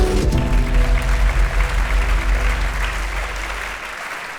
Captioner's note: audience applauds